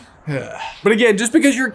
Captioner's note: groans